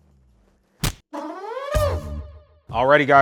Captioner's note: quirky sound